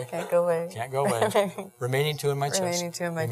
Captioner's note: laughing